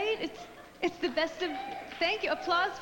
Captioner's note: applause